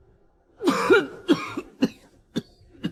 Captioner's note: cough, cough, cough